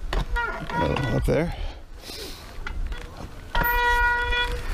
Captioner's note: bike brakes squeaking